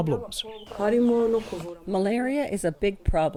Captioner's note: through translator